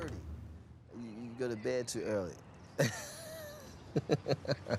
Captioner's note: laughs